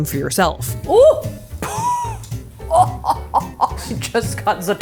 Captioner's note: laughing